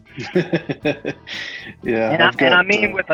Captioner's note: laughing